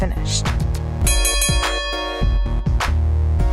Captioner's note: bell dings; electronic music